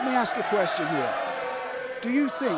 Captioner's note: fans chanting